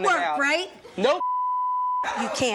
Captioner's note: beeps